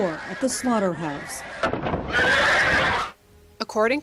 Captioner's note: Domuzlar çığlık atıyorlar